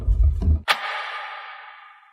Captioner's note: click